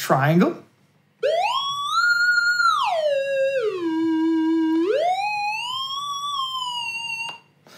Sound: triangle wave noise

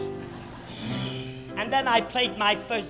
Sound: audience laughs

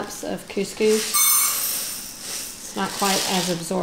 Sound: rattling

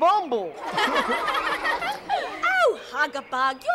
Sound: laughing

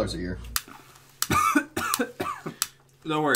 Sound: coughs

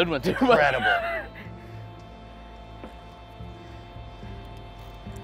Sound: laughs

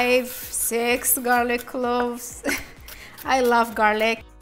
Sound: chuckles

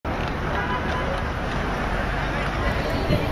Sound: city sounds

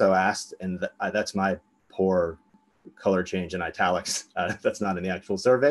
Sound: laughs

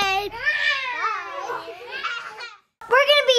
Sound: roaring

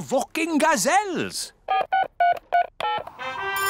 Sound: dialing; phone rings

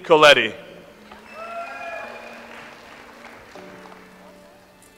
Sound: audience applauds

